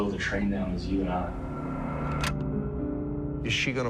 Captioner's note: clicking